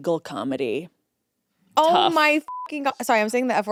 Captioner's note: beep